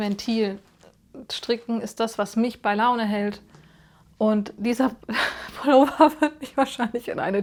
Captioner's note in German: gelächter